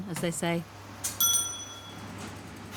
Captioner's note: bell dings